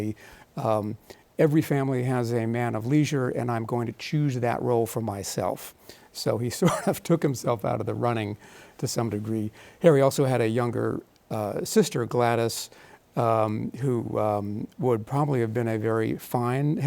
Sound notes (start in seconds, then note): 6.6 chuckles